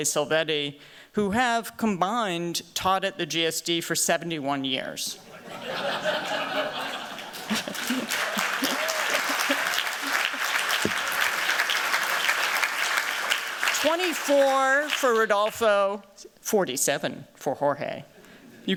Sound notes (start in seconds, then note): 5.2 laughter; 8.4 applause